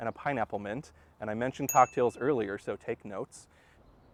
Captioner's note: chime